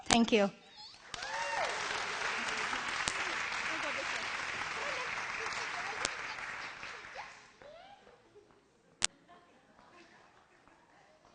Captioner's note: applause and background sounds